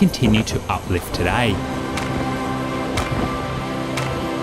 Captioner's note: wind blowing